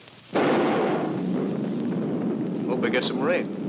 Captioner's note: lightning booms